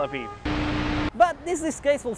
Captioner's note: old TV Static